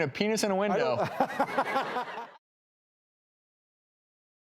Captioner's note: laughter